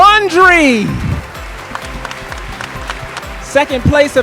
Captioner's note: audience applauding and cheering